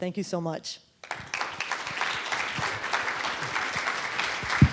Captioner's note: audience applauding